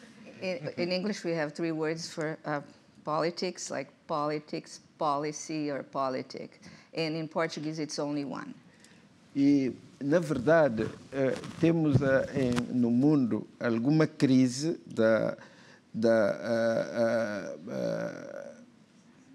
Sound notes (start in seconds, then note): 10.5 speaking portuguese